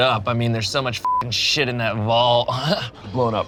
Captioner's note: beep